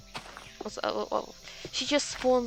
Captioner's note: stammering